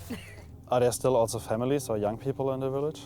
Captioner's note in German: englisch